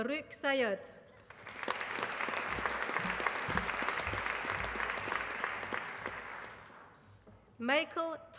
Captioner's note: applause